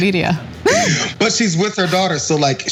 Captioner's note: laugh